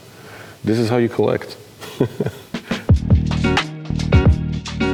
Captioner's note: chuckles; soft bright music